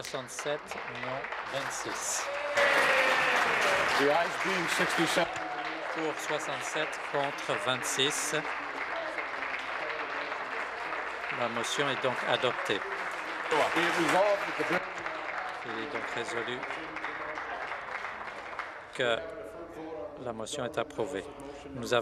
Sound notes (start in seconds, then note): 4.0 applause; 15.7 applause